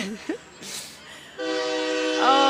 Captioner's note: chuckles; horn blows